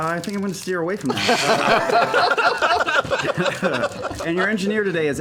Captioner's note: laughter